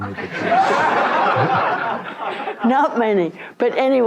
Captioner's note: audience laughs